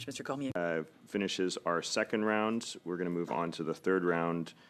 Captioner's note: speaking French